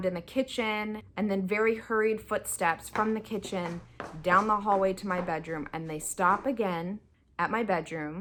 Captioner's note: footsteps